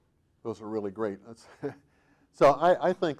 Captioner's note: chuckling